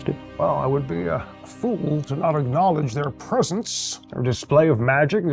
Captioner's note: none